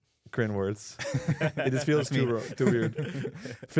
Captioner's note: laughs